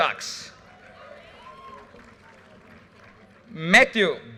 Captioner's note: audience cheers and applause